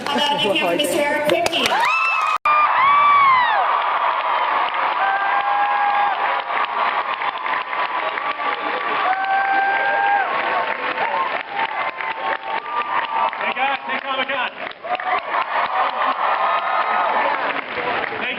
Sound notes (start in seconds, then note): 5.5 cheers, applauds; 16.6 cheers